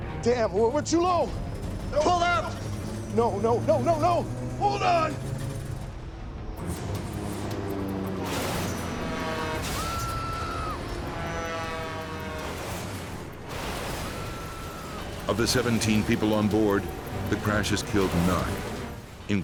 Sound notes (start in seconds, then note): 9.7 passengers scream